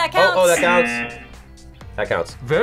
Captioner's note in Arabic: طنين الجرس